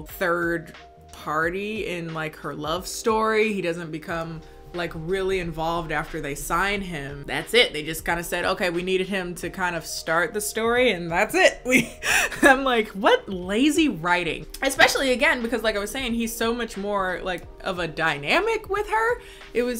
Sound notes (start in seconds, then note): 12.2 laughs